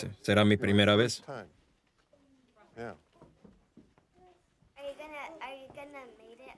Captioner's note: none